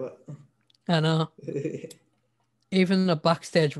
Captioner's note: chuckles